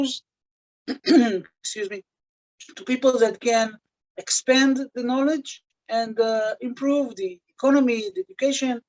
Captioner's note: cough and clears throat